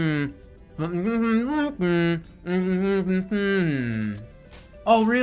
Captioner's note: humming deviously